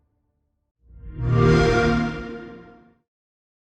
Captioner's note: xbox sound